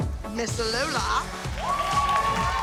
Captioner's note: applause and cheering